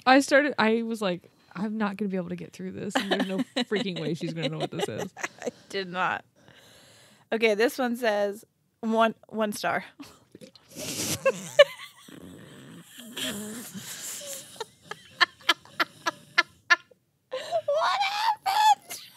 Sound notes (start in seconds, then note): 10.4 snorting; 10.9 laughing